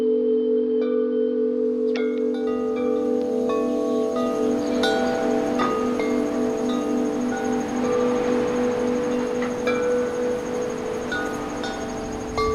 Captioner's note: chiming